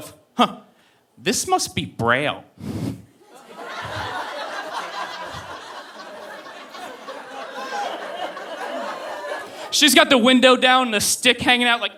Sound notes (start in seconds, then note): 3.2 audience laughing